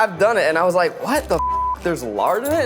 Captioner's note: beep